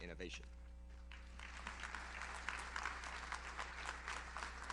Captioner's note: audience applauds